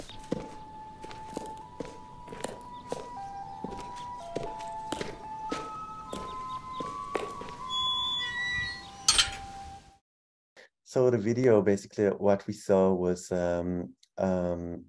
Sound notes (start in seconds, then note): 0.2 eerie music; 7.7 door squeaking